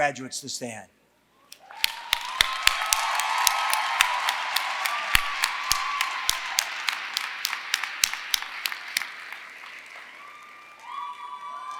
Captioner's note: applause